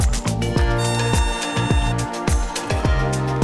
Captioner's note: start Horn Sound